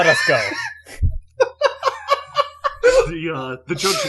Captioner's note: laughter